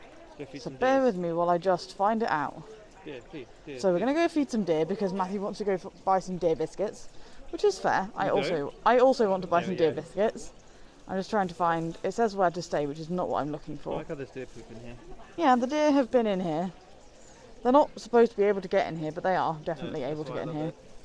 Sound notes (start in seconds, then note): 3.1 chanting